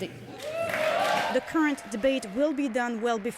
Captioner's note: speaking French